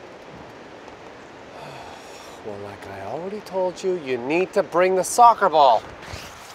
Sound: sighs

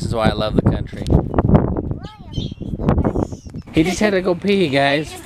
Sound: wind whistling

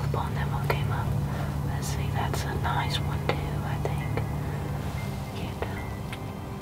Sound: whispering

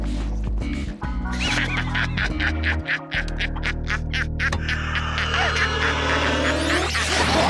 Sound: laughing

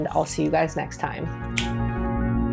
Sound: snap

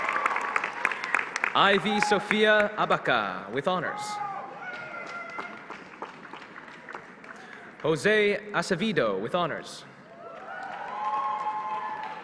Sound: applause

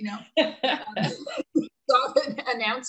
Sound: laughing loudly

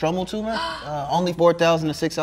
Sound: gasps

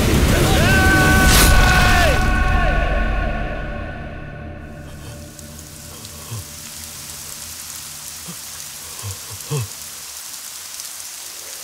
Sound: rain Sound

